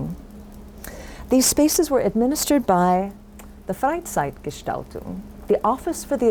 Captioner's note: foreign language